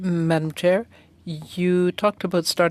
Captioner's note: speaking French